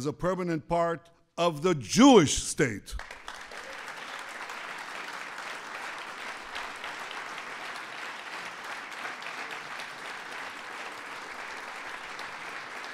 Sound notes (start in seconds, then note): 2.9 applause